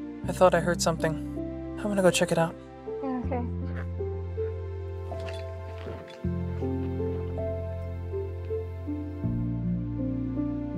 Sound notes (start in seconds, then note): 5.0 footsteps